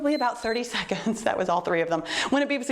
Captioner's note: timer beeps